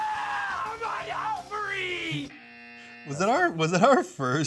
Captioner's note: screams; buzzer buzzes